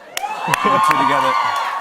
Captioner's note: cheers and applause